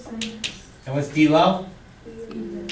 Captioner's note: voiceover